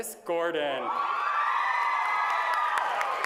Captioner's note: applause